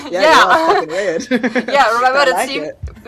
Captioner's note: laughing